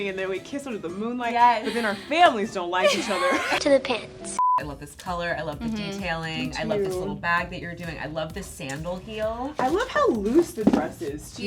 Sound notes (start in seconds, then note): 4.0 screen beeps